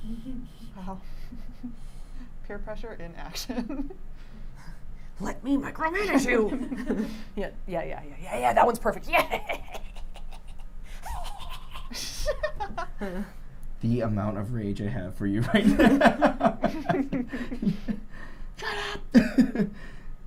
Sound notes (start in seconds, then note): 0.0 giggles; 6.6 everyone laughs; 10.9 snickers; 15.5 laughs